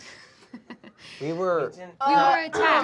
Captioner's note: laughs